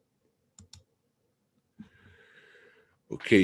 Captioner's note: mouse clicking